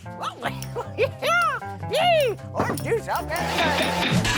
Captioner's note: laughing